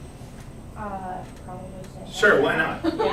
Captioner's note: laughs